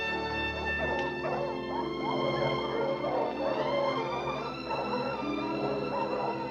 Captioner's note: gentle music continues; dogs barking